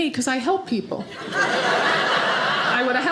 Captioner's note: audience laughing